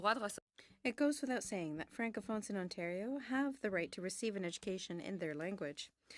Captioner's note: speaking in french